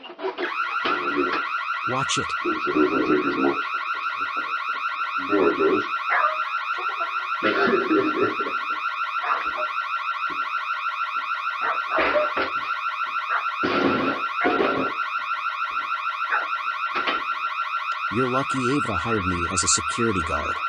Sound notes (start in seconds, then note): 0.1 car alarm goes off; 2.7 and other dogs barking; 2.7 car alarm continues